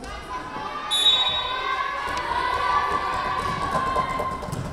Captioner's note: whistle blowing